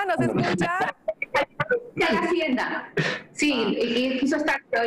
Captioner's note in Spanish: risas